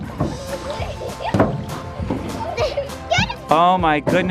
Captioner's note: laughter